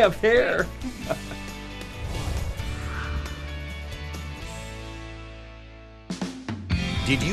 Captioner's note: chuckles